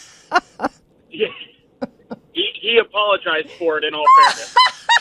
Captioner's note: laughs